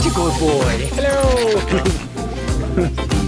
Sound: laughter

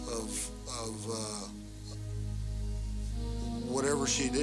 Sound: voiceover

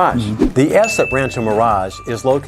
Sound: note swooshes; bell dings

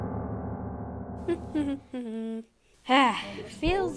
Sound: humming

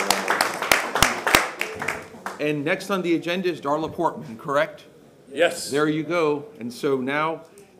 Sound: applause

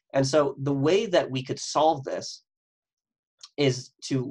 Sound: none

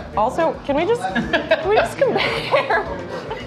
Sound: laughing

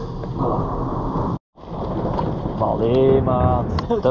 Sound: thunder

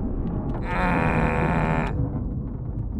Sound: grumbles anxiously

